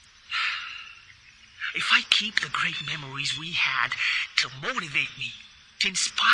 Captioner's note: sighs